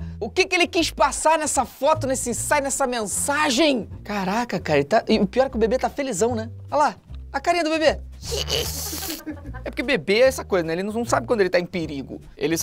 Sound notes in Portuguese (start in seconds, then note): 8.2 imita o bebê rindo; 8.7 risadas